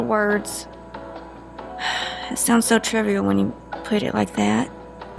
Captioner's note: Charlene sighs